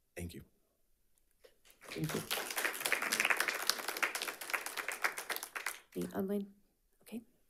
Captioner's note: audience applauding